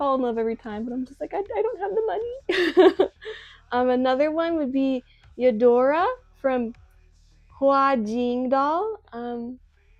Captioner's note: laughs